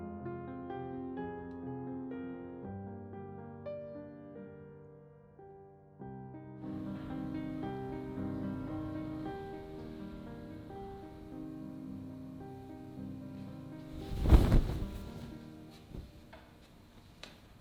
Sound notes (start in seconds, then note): 13.8 fabric whooshes